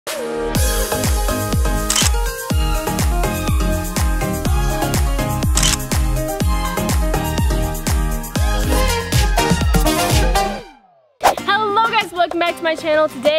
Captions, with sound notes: (upbeat music) (camera clicking) (camera clicking) (upbeat music) - Hello guys welcome back to my channel.